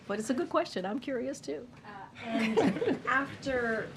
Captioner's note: laughter